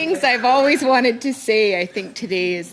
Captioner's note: laughter